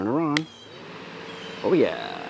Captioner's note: fan humming